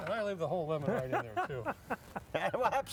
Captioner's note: laughing